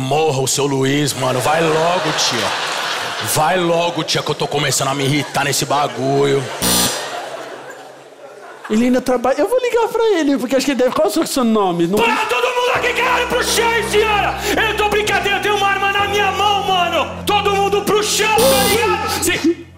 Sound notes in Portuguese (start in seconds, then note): 6.6 campainha; 12.0 grita; 18.3 campainha